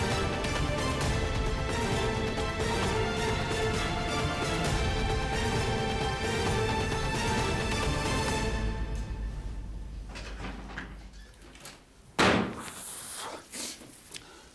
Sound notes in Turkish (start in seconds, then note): 12.2 kapi kapatma sesi̇